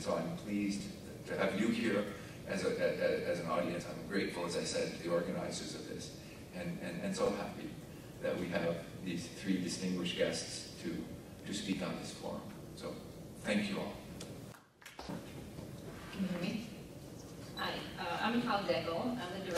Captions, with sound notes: So I'm pleased that I have you here as an audience. I'm grateful, as I said, to the organizers of this. And so happy that we have these three distinguished guests to speak on this quorum, so thank you all. (audience clapping) - Good Morning. Hi, I'm Mikhail Dekel, I'm the Director